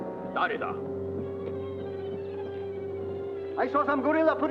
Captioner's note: man speaks Japanese